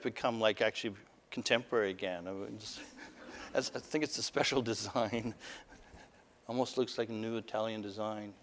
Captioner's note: laughter